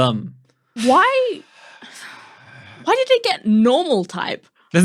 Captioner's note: both quietly sighing